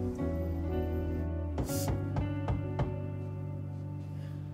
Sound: knock on door

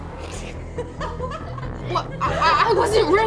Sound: laughing

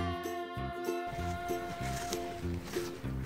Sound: sound of eating deliciously

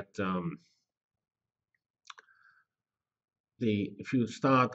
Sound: pause

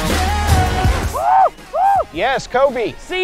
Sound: hooting

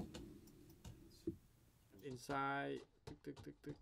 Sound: footsteps

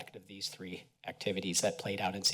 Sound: none

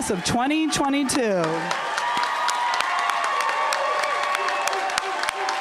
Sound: applause

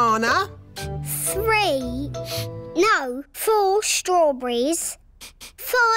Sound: sniffs

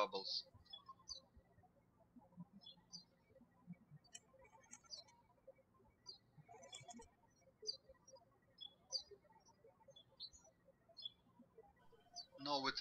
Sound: birds chirping

